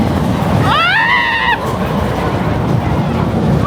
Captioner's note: screams; coaster rumbling